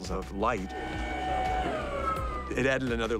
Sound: drill whirring

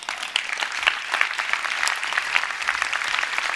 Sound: applause

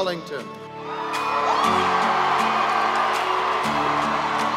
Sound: excited cheering; upbeat music

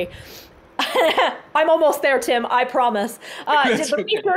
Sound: laughs

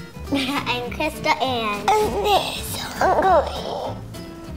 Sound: straining noises

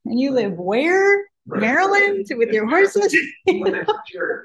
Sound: laughs

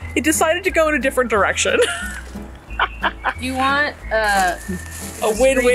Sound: laughs

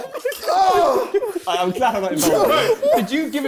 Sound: crowd mumbling

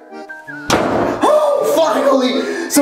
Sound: door slams

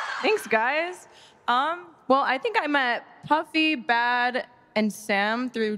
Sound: cheering

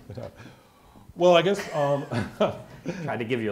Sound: laughs

